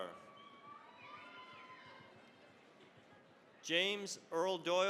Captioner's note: cheering, applause